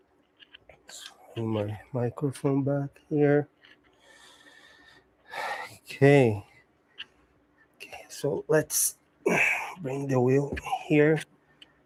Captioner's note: sighs